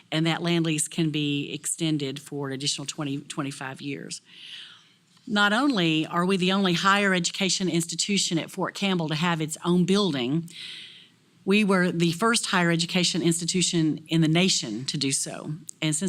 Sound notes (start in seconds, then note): none